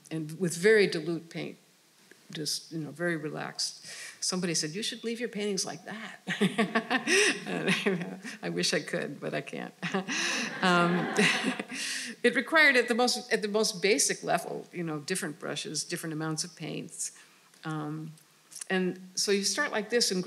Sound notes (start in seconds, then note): 6.0 laughing; 10.0 audience laughing